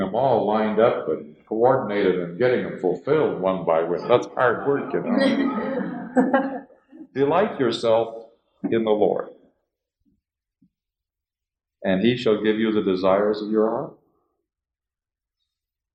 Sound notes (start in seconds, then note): 4.0 laughter